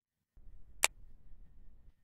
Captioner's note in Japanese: 二つ折り携帯をたたむ音：カチャ